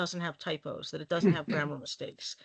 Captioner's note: chuckling